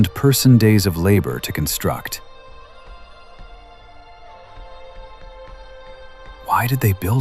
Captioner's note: conspiratorial whisper, mystery